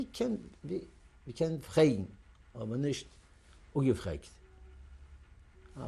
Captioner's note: yiddish; non-english